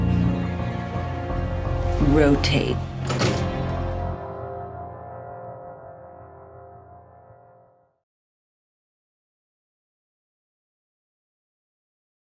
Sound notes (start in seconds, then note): 3.0 loud clank